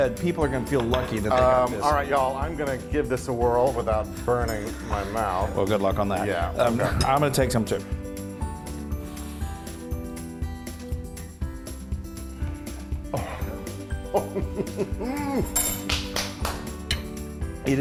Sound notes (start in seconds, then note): 9.2 mellow music continues; 14.0 chuckling; 15.8 clapping